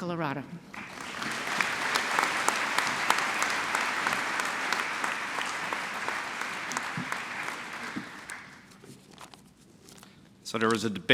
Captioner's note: applause